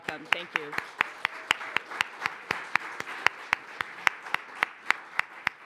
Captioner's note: applause